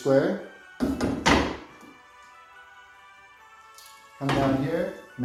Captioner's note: metal square clangs